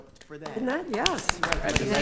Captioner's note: attendees applauding